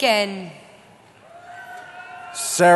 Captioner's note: cheering